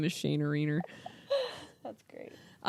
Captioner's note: laughing